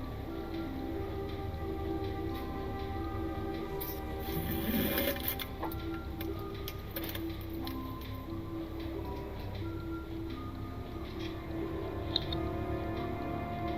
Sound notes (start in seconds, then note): 4.0 defecating